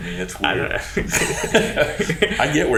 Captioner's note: both laughing